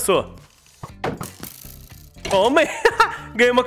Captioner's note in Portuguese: Risos